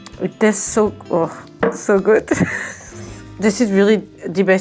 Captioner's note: chuckling